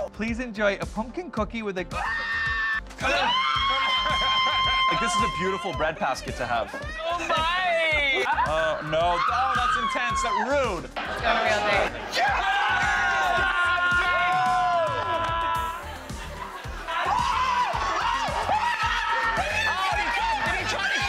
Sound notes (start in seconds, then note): 3.0 screaming; 3.0 screams; 9.0 screaming; 12.1 exclaiming; 17.2 shouting